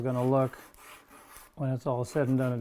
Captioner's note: sandpaper scraping